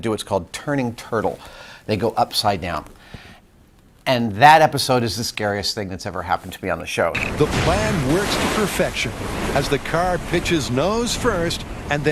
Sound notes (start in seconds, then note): 7.1 crashing of water